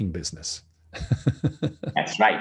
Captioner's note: laughing